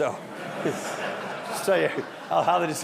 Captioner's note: audience laughing